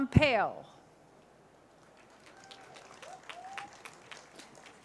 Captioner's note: cheers, applause